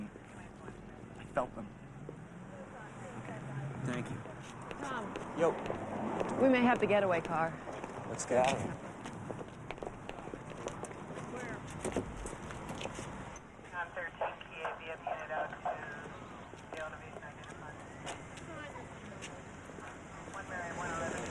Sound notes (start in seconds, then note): 10.8 police dispatcher chatting